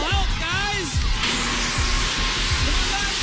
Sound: alarm sounds

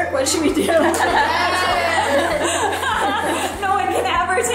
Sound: they laugh

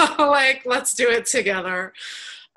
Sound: chuckles

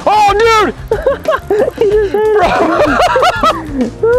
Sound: laughter

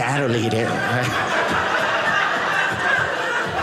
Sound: audience laughing

